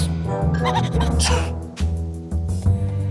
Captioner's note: sneezes